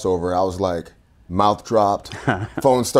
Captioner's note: laughing